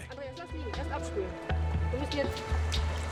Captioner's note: woman speaking Georgian